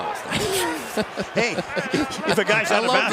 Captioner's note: laughter